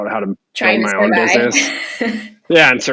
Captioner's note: laughs